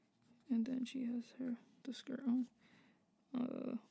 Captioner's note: whispers